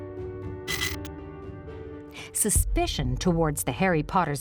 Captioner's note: film whirring